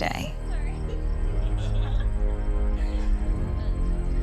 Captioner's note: laughter; giggles